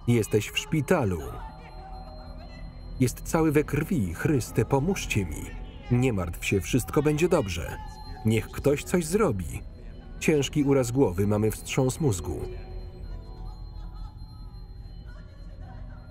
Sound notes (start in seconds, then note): 11.3 Betty sobbing